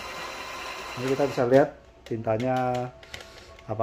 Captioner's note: printer machine sound